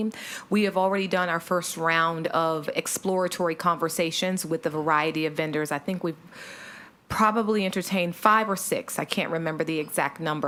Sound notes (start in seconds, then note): 6.4 sighs